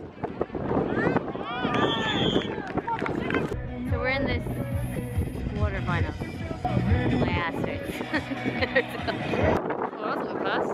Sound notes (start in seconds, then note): 0.5 all yelling; 1.7 whistle